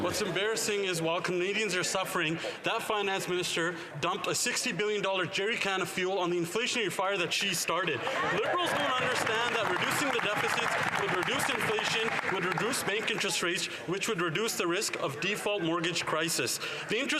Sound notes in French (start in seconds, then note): 6.9 voix de l'interprète